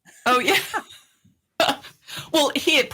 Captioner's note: both laughing